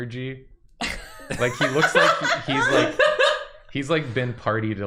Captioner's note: laughter